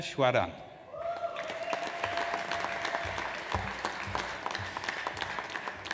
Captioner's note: audience applauds